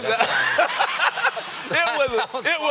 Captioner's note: laughter